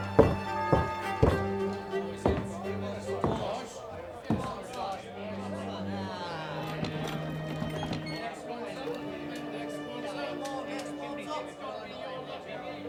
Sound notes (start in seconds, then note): 0.0 Mary knocking; 7.4 chalkboard squeaking; 9.8 group chattering